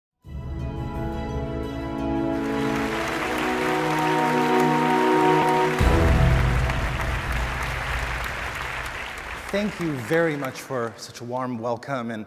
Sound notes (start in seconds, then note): 0.2 applause; 0.3 bright music